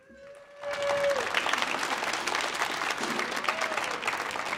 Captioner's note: audience applauding